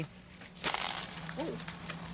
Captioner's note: coins falling